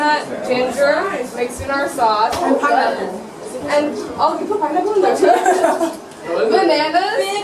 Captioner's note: laughter